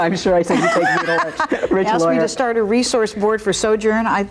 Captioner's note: laughs